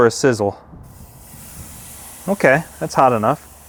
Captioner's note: steak sizzling